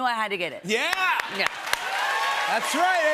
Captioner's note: cheers and applause